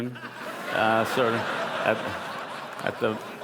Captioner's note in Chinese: 笑聲